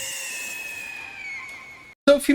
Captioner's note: scream